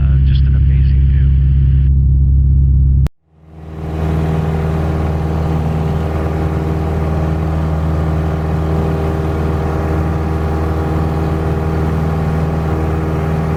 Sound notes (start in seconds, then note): 3.7 engine rumbles